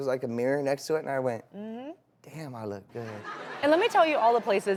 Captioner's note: audience laughing